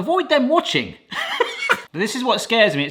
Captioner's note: laughs